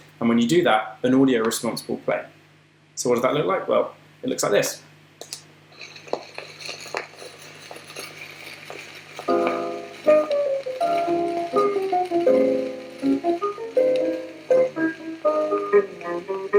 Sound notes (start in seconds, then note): 5.2 sound of crackling record